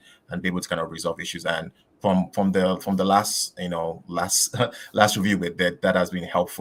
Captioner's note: laughs